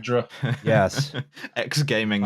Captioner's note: laughing; laughs